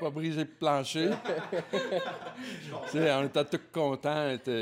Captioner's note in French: rires